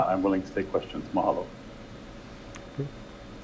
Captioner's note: speaks in foreign language